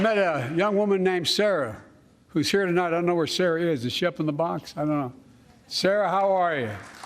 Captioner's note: applause